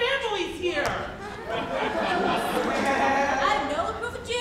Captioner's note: audience laughs